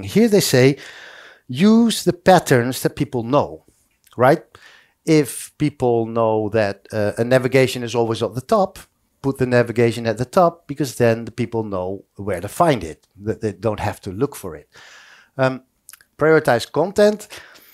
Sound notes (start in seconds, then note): none